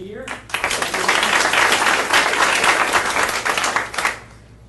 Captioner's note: audience applauding